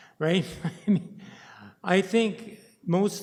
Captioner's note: chuckles